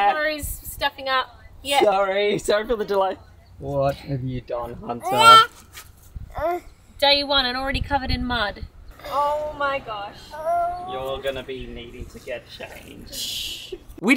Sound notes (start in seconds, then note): 10.2 whining